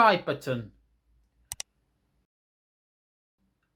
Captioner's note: click sound